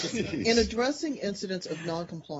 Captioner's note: laughter